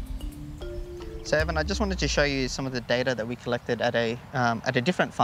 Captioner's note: none